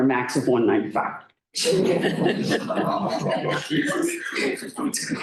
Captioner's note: laughter